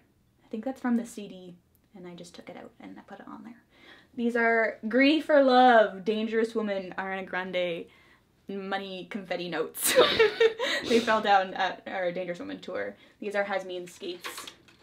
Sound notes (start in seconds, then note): 9.9 both laugh